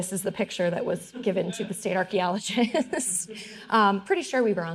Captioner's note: all laughing